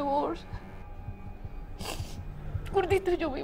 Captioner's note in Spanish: Sollozos